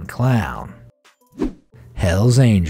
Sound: air whooshing

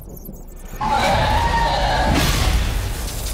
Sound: agonised screech

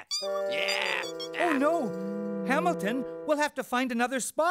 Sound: groaning

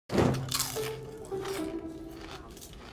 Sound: someone eating chips loudly

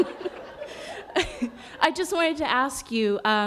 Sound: laughter

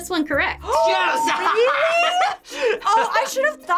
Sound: laughs; gasps

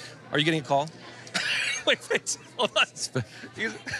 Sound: laughs

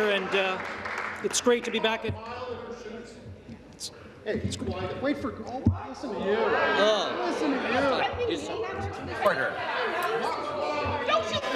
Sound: applause

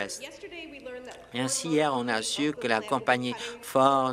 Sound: applause

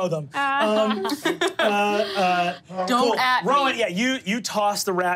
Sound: players laughing

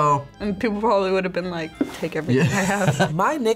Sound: chuckles

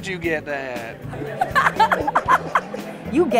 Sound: laughing

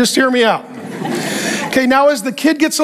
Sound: congregation laughing

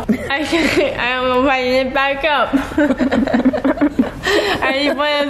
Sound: laughs

